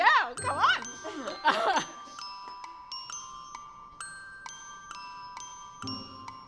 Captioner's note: bright music; chuckling